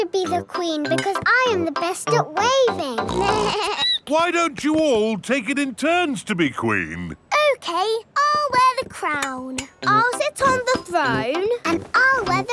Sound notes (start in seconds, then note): 3.0 snorts; 3.1 bleats